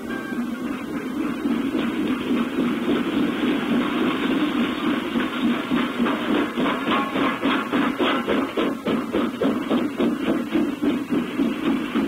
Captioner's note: locomotive sounds and train whistle